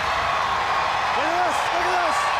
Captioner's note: crowd cheering